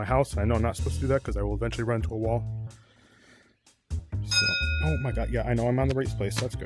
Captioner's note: ding